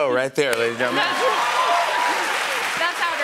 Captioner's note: cheers and applause